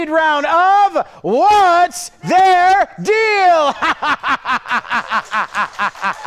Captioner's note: laughs